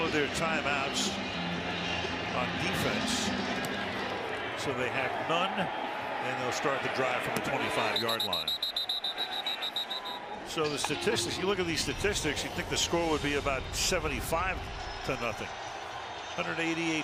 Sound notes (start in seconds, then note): 7.8 whistle